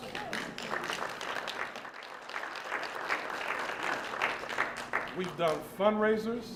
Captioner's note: applause